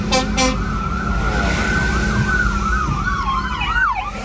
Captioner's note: siren